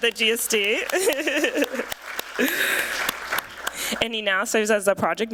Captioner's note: applause